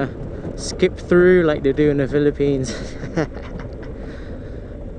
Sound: laughs

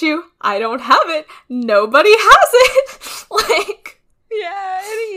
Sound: laughs; laughing

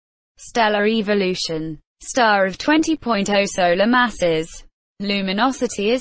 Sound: voice-over

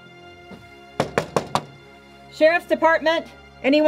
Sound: door knocking

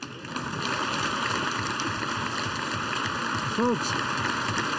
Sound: applause

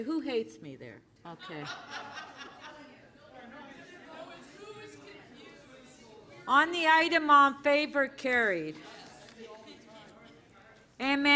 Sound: laughter

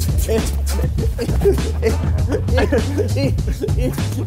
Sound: laughing

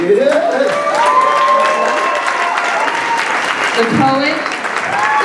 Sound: applauses

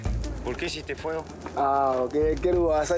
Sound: Portuguese spoken audio

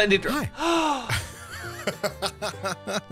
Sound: gasps; laughs

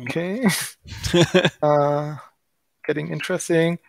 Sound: both giggling

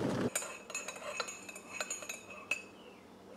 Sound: clinking sounds from stirring

